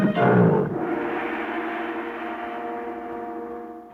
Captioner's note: gong ringing